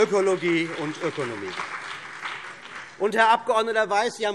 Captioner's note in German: Beifall CDU und BÜNDNIS 90/DIE GRÜNEN